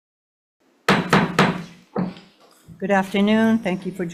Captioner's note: gavel clanking